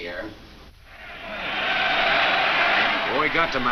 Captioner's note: crowd cheers